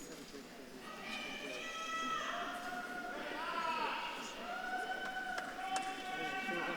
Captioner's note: audience claps and cheers